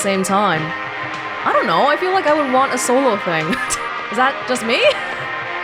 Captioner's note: chuckles